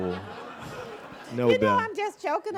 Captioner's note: audience laughing